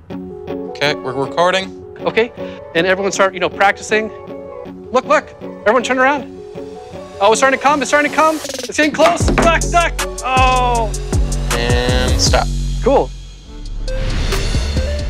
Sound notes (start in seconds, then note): 10.0 tense music; 10.2 groans; 13.6 bright upbeat music